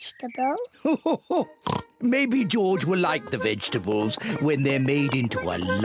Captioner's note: laughs